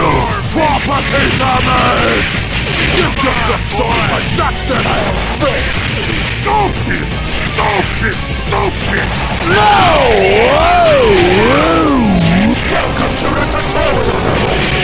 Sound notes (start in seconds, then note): 11.7 distorted; 14.2 robotic Voice